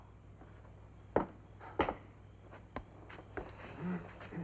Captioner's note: departing footsteps